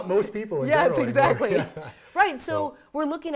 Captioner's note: laugh